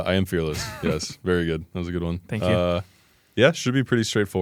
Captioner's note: laughs